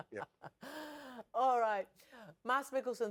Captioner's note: chuckling